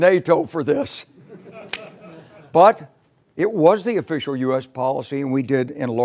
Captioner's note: laugh